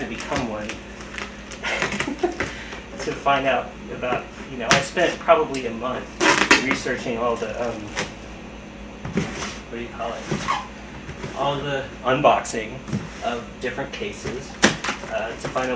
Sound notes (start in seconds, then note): 1.6 laugh